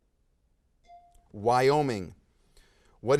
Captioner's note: bell dings